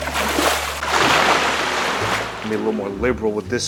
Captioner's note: splashing